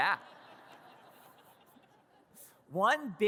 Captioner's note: audience laughs